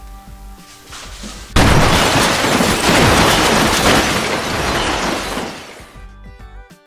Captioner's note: crash! Boom! Shatter!